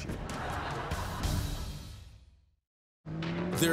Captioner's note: laughter